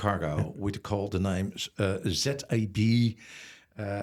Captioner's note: laughs